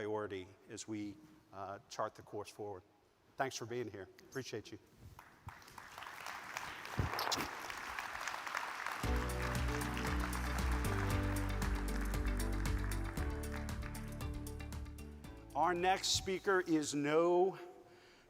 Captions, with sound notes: as we chart the course forward. Thanks for being here, appreciate you. (audience claps) (upbeat music) Our next speaker is no stranger